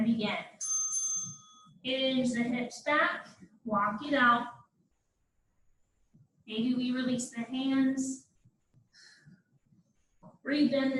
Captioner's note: ding ding